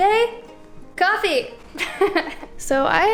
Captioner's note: laughter